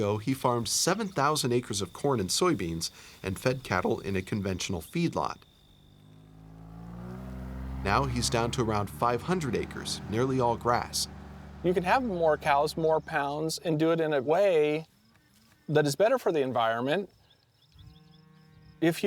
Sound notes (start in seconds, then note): 5.2 engine running